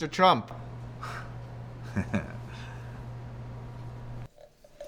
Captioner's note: chuckles